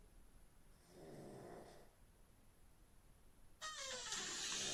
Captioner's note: Phil snoring